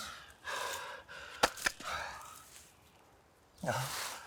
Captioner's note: radio clattering; Arawn panting